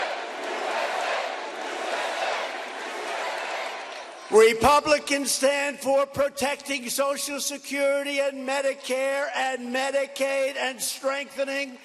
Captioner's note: chanting usa!